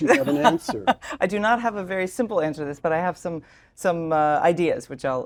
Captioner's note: laugh